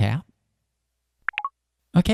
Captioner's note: beeps